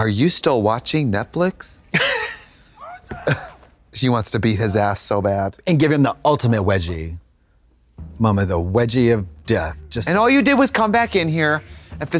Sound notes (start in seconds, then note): 2.8 Katya titters